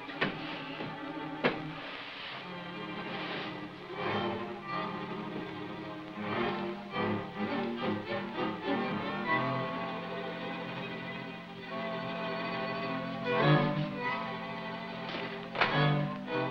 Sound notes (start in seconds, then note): 0.7 sliding